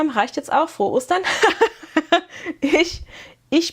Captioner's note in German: gelächter